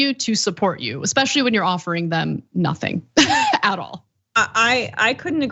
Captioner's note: laugh